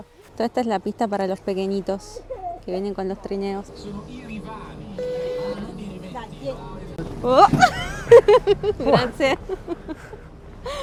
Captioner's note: laughs